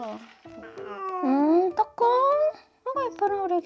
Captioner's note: meow